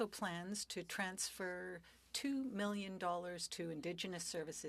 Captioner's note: speaking French